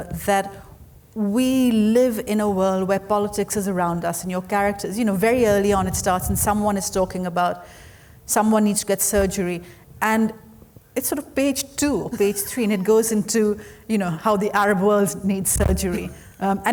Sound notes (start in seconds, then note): 12.0 laughing